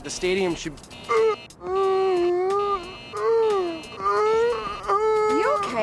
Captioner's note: gasping